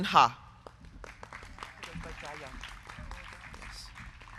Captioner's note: crowd clapping